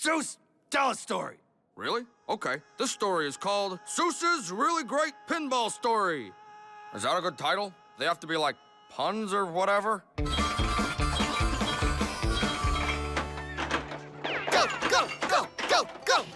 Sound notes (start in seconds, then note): 6.0 Dipper screaming; 13.8 gunshots, neighing